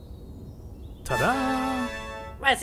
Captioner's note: tada Sound